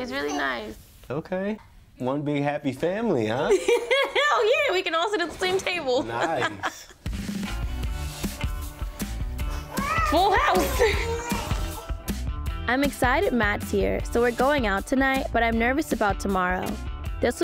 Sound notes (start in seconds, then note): 3.8 laughs; 7.3 calm upbeat music; 10.2 laughs